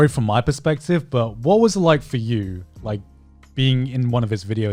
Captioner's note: none